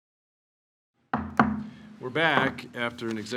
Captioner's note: gavel banging